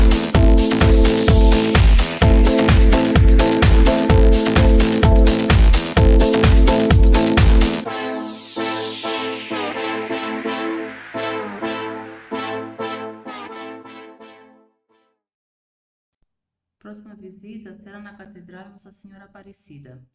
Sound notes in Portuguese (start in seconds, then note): 16.0 Sem som